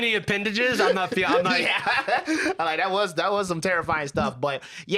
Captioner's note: laughs